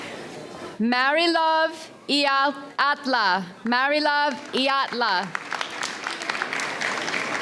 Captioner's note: audience applauds